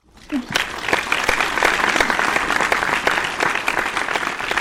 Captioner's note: audience applauds